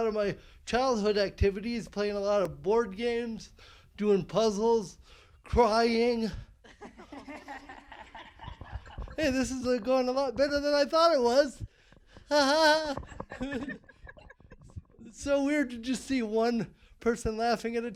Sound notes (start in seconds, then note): 6.6 laughing